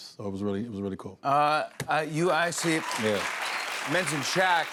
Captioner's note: cheers and applause